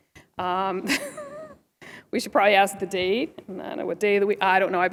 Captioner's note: laughter